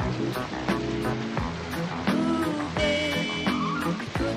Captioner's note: horn Honking